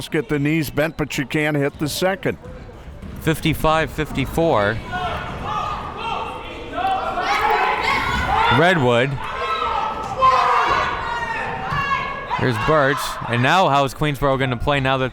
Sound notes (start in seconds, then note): 4.7 crowd members shouting